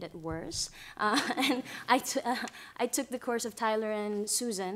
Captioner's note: laughter